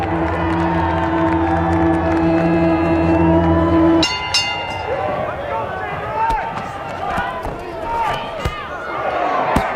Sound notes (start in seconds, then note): 0.0 audience cheering; 3.8 bell ringing; 4.8 audience shouting